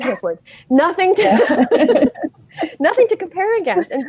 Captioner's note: laughing